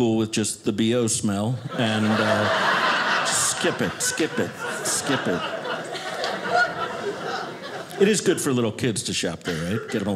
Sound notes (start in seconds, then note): 2.6 audience laughing; 5.8 audience laughing